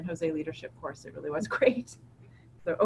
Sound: laughs

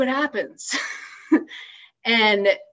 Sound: laughs

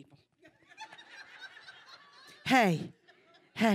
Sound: audience laughter

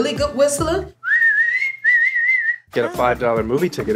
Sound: whistling

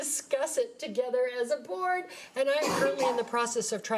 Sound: participant coughing

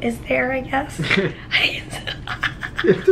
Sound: chuckling

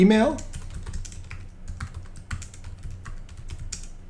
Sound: keyboard clicking

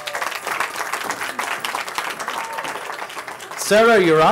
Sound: cheering

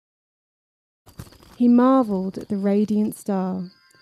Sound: silence; crunching sound

